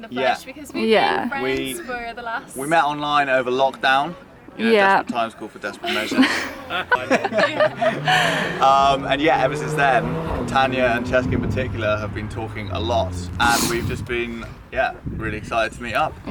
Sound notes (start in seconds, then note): 5.8 laughing